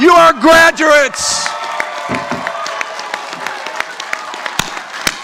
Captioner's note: audience applauding